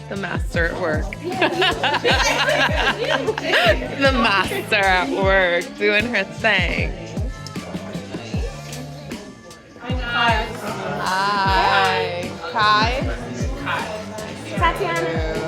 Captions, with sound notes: The master at work. (laughing) The master at work doing her thing. (upbeat music) Hi guys! Hi! -Kai. Kai. Kai -Nice to meet you. Tatiana.